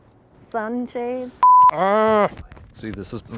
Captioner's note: graphic beeping